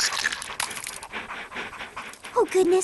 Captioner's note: splash